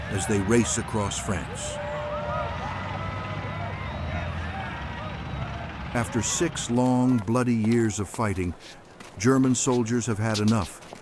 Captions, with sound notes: as they race across France. [trucks rolling by] [people cheering] after six long, bloody years of fighting, German soldiers have had enough